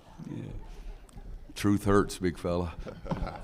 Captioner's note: laughter